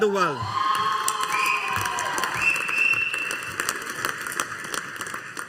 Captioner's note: audience applauding